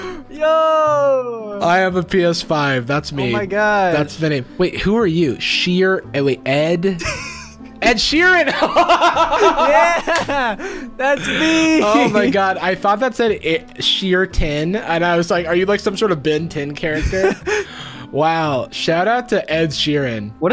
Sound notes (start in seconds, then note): 8.4 laughs